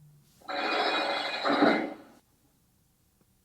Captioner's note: prison Door sound